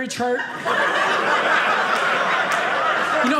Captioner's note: audience laughing